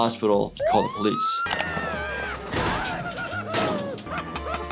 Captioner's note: police sirens; Toothy screams; crashing sound; Nutty grunting